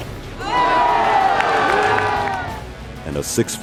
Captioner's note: crowd cheers